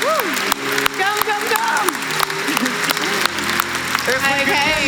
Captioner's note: clapping